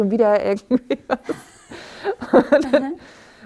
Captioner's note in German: lacht